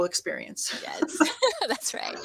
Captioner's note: chuckles